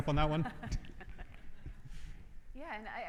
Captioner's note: laughs